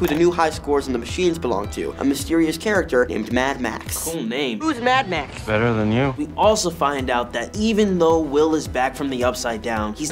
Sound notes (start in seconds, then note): none